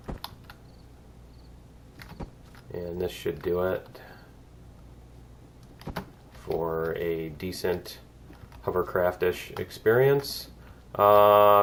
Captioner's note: cricket chirps